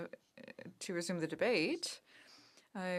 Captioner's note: speaking French